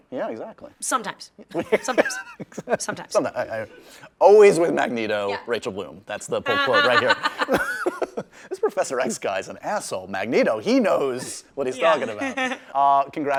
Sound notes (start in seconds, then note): 1.6 laughs; 6.5 laughs